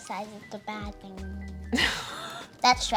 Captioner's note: laughs